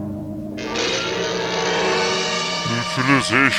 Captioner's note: whirring; zapping sound, shocking music